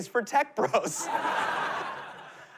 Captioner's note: laughter